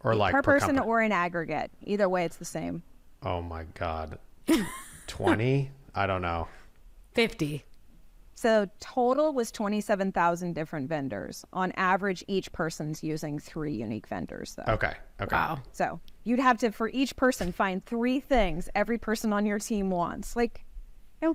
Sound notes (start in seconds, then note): 4.5 laughs